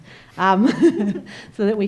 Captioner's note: laughs